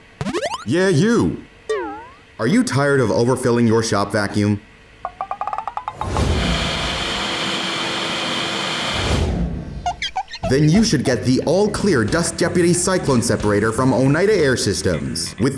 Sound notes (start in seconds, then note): 0.0 8-bit riser; 1.7 empty tin can hit; 5.1 squeaks; 6.1 vacuum whirs